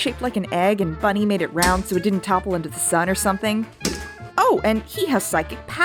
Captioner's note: thump